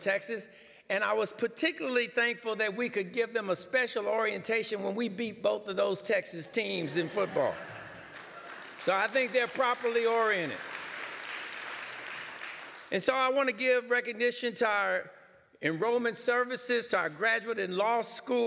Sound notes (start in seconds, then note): 10.6 light applause